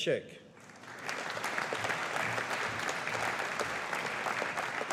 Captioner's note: audience applauding